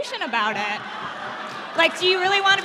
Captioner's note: laughing